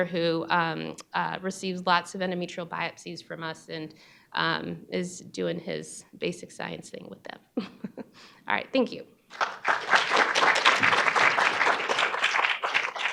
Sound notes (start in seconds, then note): 7.9 laughs; 9.3 audience applauding